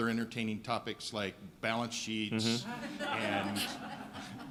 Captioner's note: laughing